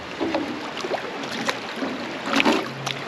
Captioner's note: fish splashing; thunk